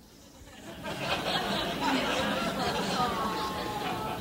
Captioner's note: laughing